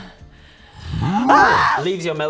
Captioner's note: rwarrr!